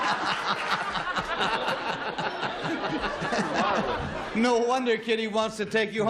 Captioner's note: laughter